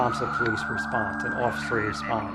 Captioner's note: police siren wailing